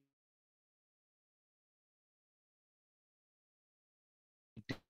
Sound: audio Cuts Out

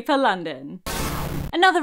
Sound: glitch

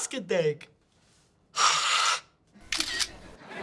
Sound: hissing; camera snapping

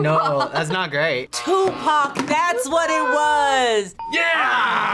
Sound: gasps

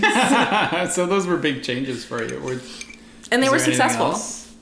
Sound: laughter

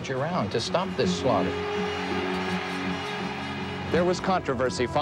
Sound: cheers and applause

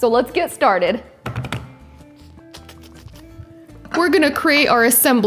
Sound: wood thuds

